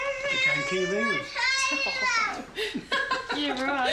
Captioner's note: laughs